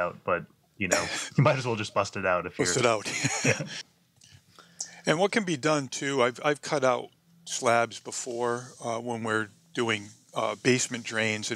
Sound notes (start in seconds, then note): 2.7 laughs